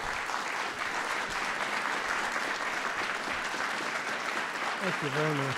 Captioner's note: applause